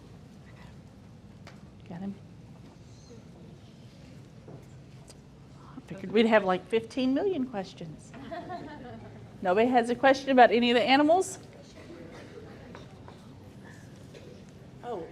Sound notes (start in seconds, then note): 8.1 group chuckles